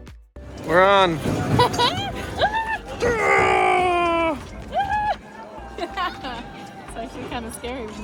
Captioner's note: both scream